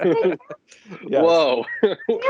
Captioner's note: laughter